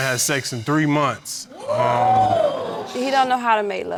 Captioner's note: audience exclaims